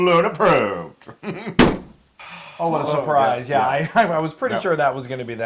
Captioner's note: laugh